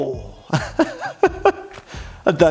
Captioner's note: laughing